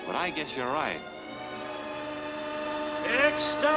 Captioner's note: train whistles